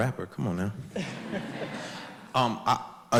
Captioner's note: audience laughs